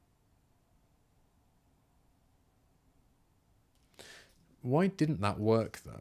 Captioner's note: silence